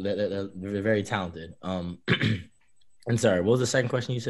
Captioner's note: throat clearing